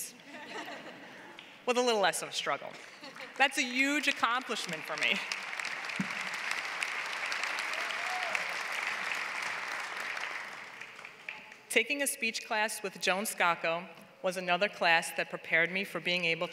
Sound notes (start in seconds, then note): 0.2 laugh; 3.0 laugh; 7.9 applause